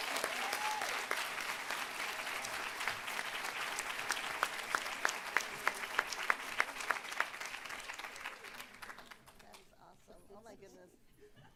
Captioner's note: applause